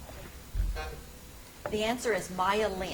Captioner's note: timer buzzes